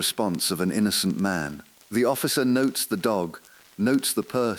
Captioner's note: exhale